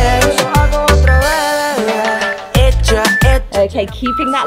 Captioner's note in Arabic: صوت المؤقت